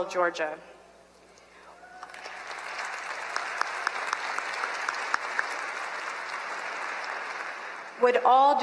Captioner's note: applause